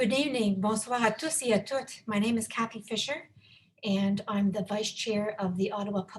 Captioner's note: speaking French